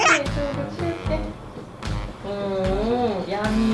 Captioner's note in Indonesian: none